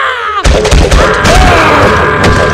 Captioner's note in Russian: крики агонии, рвущаяся плоть, ломающиеся кости и чавканье